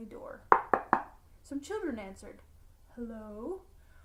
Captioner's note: knocking